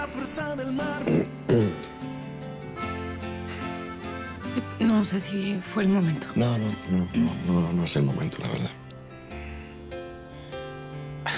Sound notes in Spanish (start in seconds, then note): 2.6 Carraspea